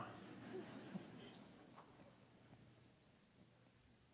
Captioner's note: audience chuckling